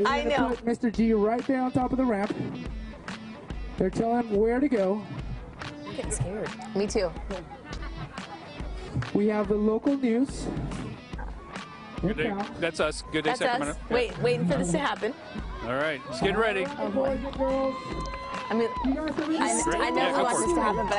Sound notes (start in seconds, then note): 7.5 laughter